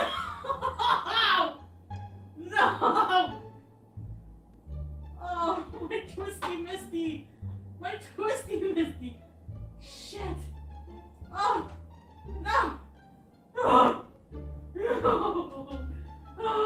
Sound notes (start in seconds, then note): 2.4 laughs; 11.6 grunting; 13.5 moaning